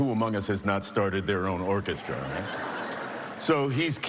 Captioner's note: laughter